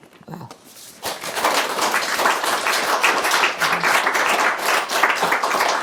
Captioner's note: applause